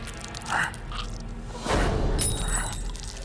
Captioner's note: ominous music; scientist groans; glass shattering